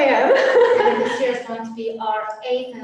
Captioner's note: laughter